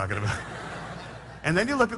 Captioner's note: laughter